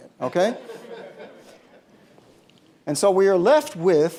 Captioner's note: laughter